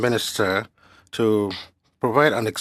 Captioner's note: speaking french